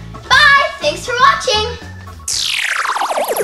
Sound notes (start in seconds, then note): 2.3 laser zaps